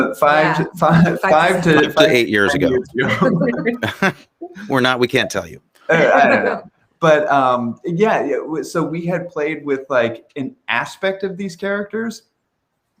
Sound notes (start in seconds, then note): 3.5 everyone laughing; 5.9 laughing